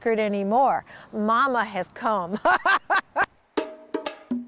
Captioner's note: laughing; upbeat drum music